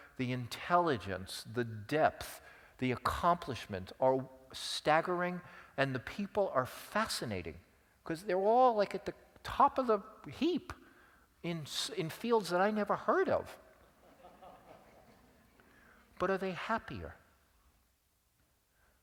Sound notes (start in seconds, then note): 13.8 laugh